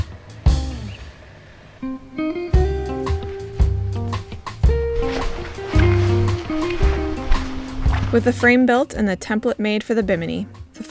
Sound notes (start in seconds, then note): 5.1 canvas rustling